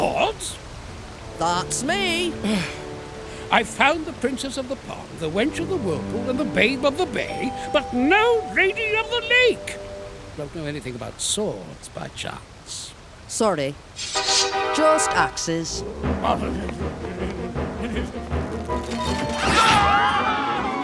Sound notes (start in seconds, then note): 2.4 sighing; 19.3 screaming